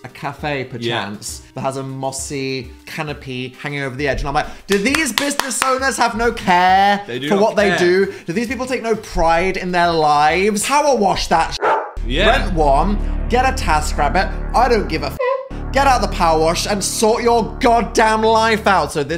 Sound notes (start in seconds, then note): 11.6 dog barks; 15.4 horn honks